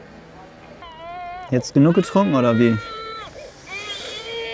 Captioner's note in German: Baby schreit